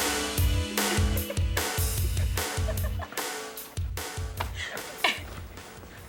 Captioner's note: Tanya and Morgan laughing